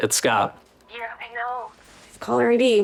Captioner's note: on phone